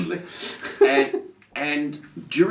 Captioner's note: laughing